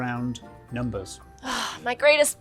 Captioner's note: exhales sharply